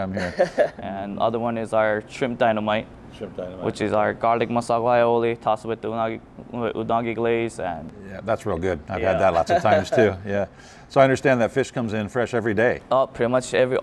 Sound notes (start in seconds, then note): 9.2 laughs